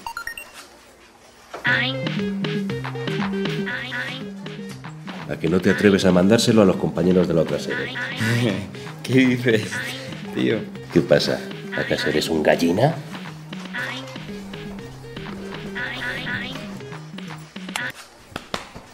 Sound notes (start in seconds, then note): 7.9 chuckles; 16.7 mouse click